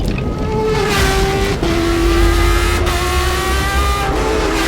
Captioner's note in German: Motorheulen